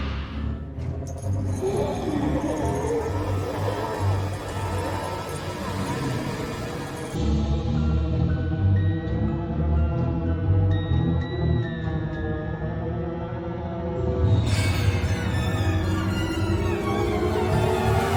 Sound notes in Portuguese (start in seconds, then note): 1.0 correntes mexendo e monstros grunhindo; 14.2 música de tensão